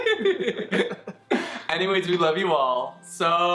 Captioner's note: laughs